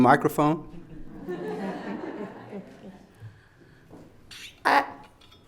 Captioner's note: audience laughs